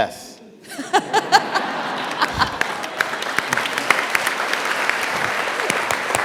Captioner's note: applause